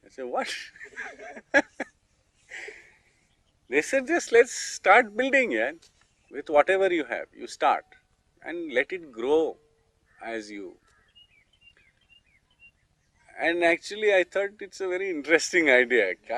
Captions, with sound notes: I said, "what?!" (laughs). They said .. "lets just start building.. with whatever you have.. you start.. let it grow... ...as you grow. I thought it was a very interesting idea.